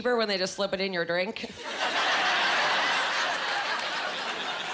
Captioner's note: laughing